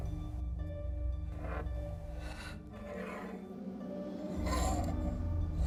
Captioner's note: scraping